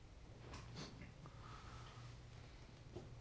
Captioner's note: scoffs